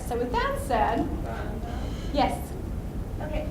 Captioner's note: voiceover